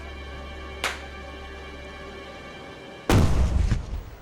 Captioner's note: gun firing